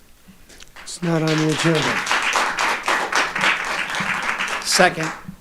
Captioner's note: audience applauding